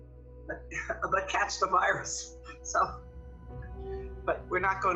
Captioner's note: laughs